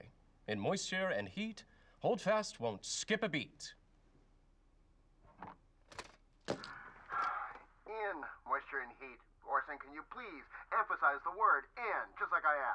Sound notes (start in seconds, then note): 6.6 sighs